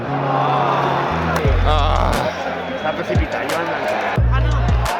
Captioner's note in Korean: 아쉬움의 탄식